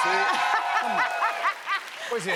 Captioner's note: cheers and applause